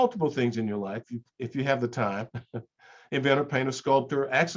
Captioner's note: chuckles